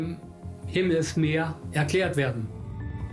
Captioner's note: speaks in German